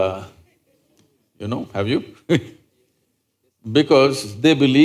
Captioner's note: laughs